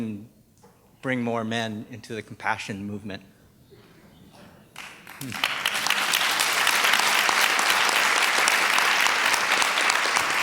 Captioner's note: applause